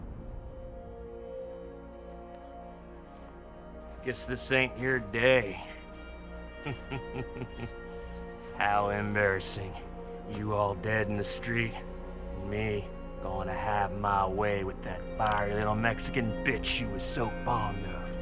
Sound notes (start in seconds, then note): 7.2 laughs